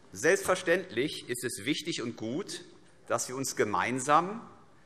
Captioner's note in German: none